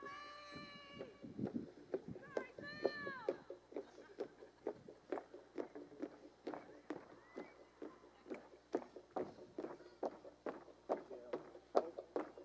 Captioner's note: footsteps, marching